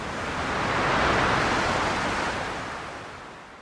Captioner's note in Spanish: Ondas de salpicaduras